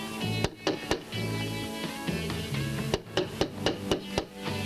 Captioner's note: repeated loud knocking on door